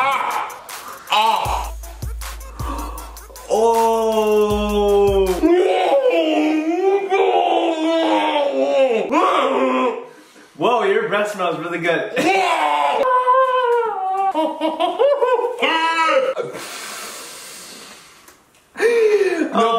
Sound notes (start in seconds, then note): 5.5 muffled yelling; 12.2 inarticulate cries of pain; 14.1 muffled cries of pain and laughter; 16.4 deep breathing